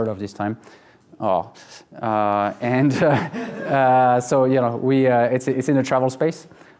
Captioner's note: laughing